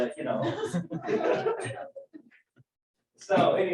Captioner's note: laughter